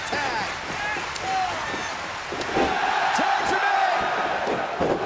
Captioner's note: crowd cheering